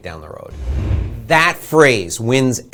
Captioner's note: air whooshing